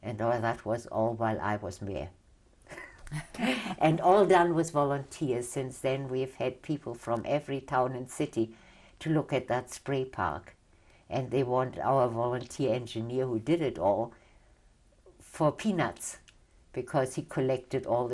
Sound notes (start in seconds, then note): 2.7 laughter